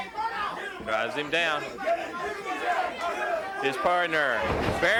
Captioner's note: body thudding